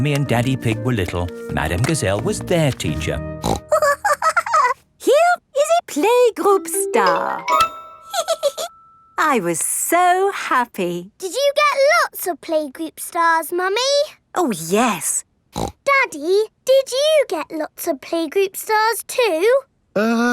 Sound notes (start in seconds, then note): 3.4 snorts and giggles; 8.1 giggles; 15.6 snorts